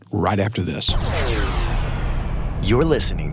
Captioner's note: whoosh